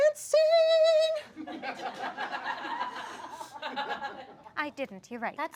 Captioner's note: audience laughs